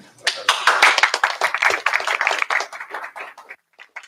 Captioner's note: applause